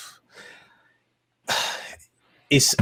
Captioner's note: sighs loudly